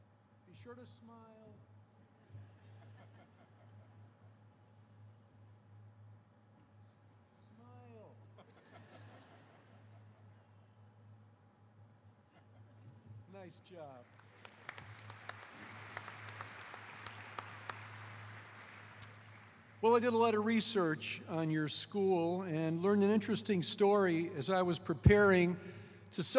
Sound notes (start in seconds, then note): 0.1 laughter; 12.2 laughter; 18.3 applause